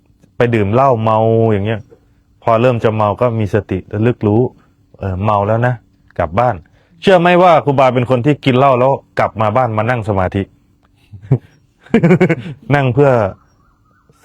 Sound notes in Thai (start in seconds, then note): 11.8 เสียงหัวเราะ